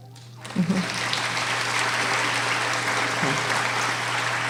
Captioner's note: applauding